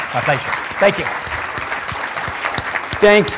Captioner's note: applause